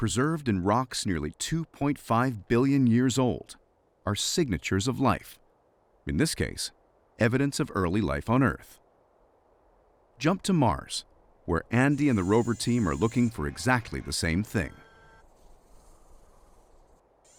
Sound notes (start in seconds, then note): 8.9 wind; 14.7 rover whirrs